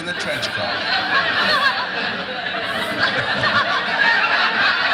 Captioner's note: audience laughs heartily